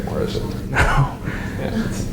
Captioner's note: chuckles